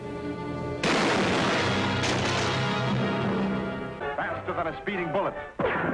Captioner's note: dramatic music; gunshot fires